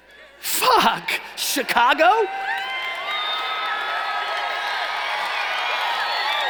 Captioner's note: cheering and applauding